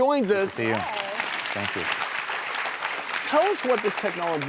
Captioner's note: crowd clapping